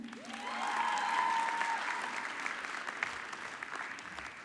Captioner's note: audience clapping